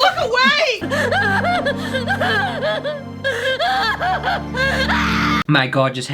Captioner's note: hysterical Crying